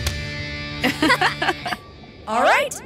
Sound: Harmonique and Riviera laughing

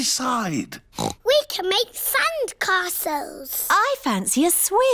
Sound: oinks

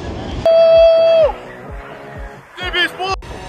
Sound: cheering

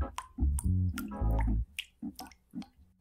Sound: drips

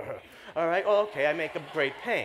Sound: laughter

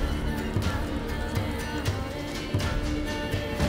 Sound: blood dripping

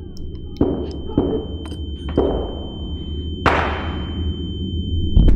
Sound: gun shots

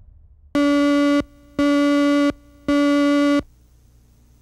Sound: 3 loud beeps in succession

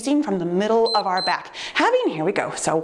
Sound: timer beeps

